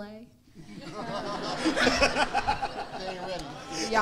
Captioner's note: audience laughing